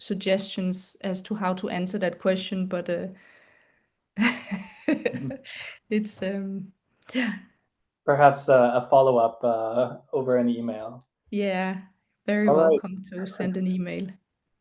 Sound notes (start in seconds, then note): 4.2 laughs